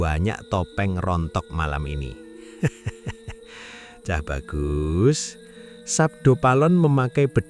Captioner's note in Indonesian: tertawa